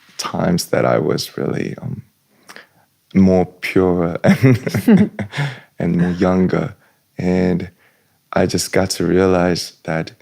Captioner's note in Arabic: ضحك